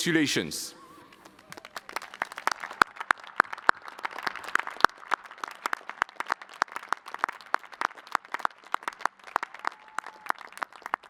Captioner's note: applause